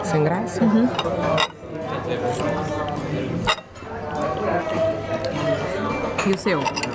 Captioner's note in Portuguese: ambiência de restaurante